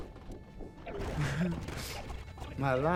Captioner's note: chuckling